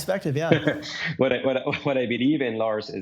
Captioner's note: chuckles